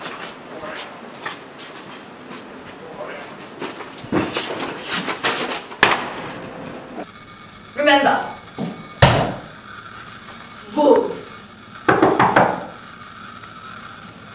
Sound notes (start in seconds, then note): 5.8 slams the hell out of the door; 11.9 knocks